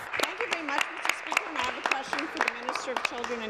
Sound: applause

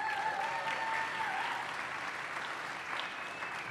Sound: applause

